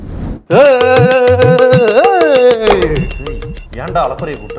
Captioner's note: man howling